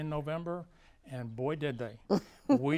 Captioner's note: laughs